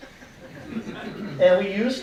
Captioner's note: audience laughing